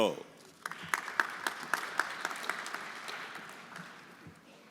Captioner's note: everyone applauding